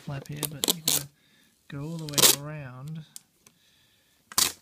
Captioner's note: plastic peeling